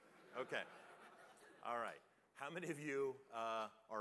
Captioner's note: laughter